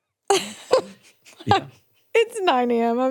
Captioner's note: laughing